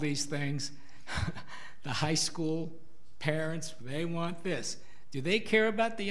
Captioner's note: laughs